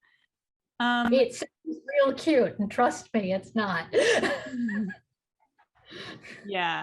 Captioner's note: laughs